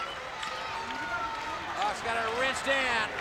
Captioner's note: audience cheers